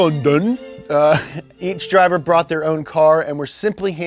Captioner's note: laughs